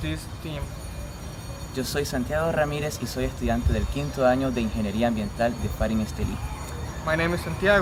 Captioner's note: speaking spanish